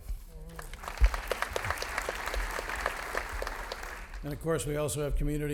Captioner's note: audience laughing